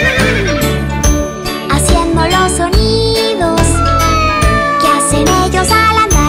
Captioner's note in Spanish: Sonido de relincho; Maullido